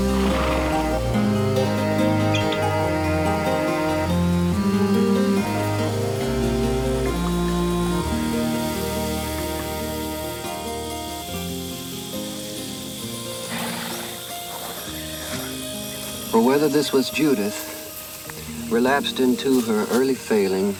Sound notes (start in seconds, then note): 0.1 horse snorts; 11.3 cicadas chirp; 13.2 horse snorts